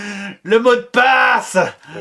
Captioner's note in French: Voix perverse